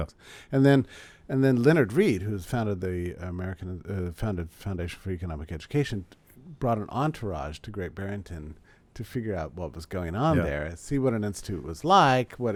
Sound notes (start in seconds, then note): none